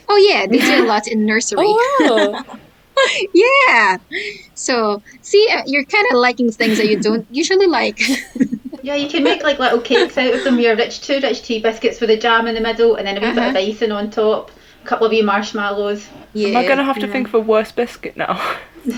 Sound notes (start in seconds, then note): 17.9 laughter